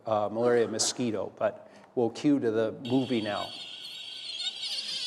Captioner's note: mosquito buzzing